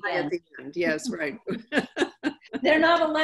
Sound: laughing

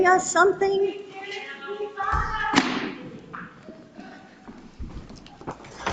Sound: woman speaking distantly

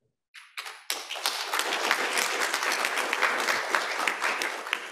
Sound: applause

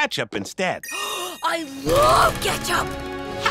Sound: gasping

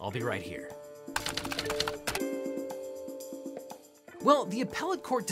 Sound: typewriter clicking

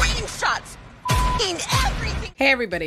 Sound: beep

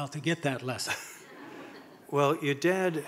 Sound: audience laughing

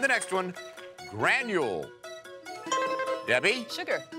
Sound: electronic beeping

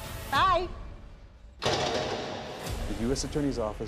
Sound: bang

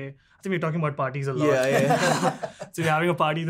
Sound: laughing

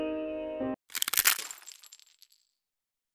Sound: crunching sound

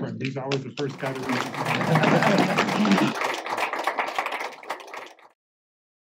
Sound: applause

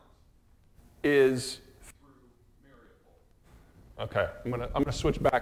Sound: audio fails

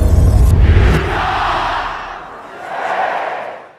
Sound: dramatic sound effect; crowd shouting

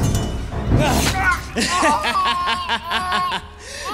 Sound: portentous laughter

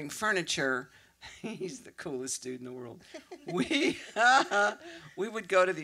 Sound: laughs

